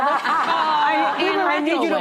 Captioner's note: laughing